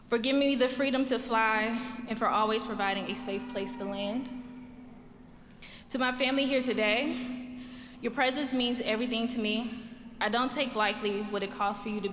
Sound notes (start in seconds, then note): none